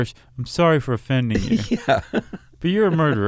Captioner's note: laughs